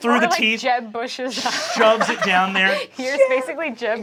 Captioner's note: cast laughing